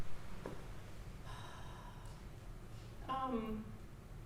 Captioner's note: exhaling